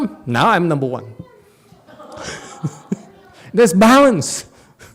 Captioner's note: laughs